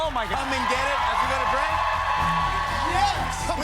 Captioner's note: cheers and applause